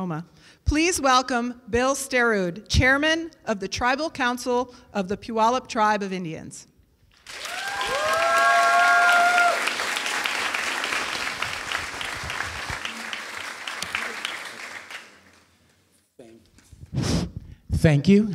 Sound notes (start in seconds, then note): 7.1 applause and cheering